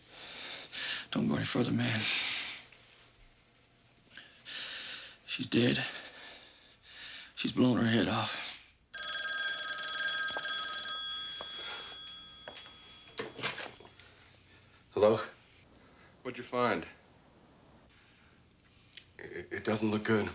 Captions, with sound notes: [BREATHING HEAVILY] Don't go any further, man. She's dead. She's blown her head off. [TELEPHONE RINGING] -Hello? -What'd you find? It doesn't look good.